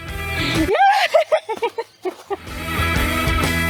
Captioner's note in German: Gelächter